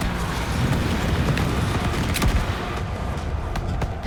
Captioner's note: gunshot